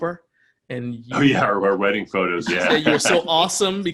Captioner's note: laughs